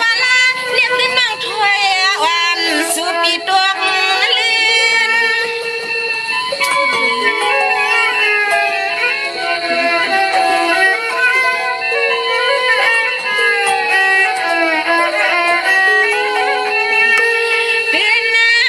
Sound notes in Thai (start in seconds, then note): 6.6 ปรบมือ